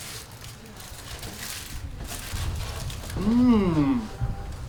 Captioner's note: wrapper crinkling